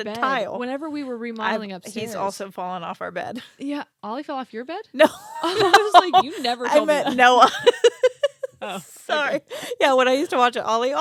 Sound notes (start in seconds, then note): 5.1 laughs